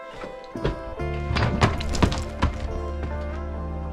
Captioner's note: thudding